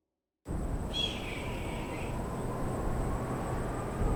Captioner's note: bird cries